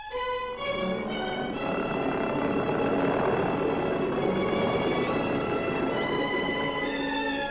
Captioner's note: dramatic music; aircraft rumbles; dramatic music